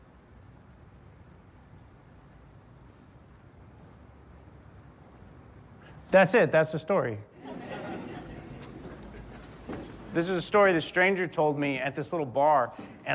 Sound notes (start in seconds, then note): 7.3 audience laughs